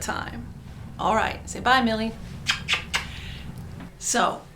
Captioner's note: kisses